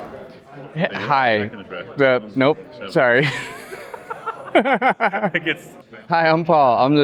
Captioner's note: nervous laughter